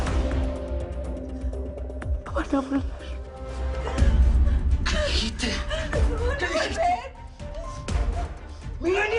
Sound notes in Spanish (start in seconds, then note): 3.8 Sollozos